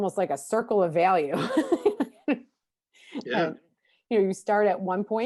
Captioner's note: laughs